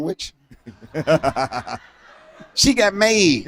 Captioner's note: laughter